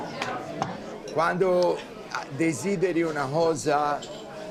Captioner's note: Dario speaking Italian